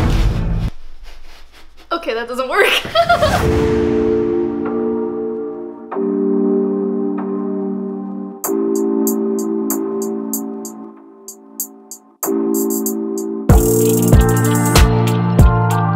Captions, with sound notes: Okay, that doesn't work. (laughs) (upbeat music)